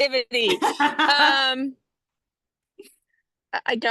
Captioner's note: laughs